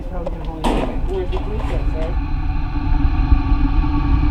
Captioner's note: chattering; dramatic, tense music